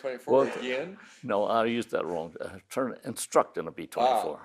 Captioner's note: chuckling